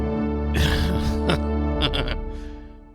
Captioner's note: laughs